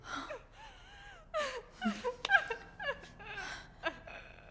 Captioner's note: Mary gasps; Paige sobs